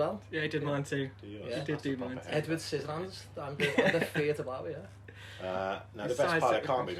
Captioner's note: laughter